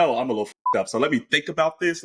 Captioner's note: beep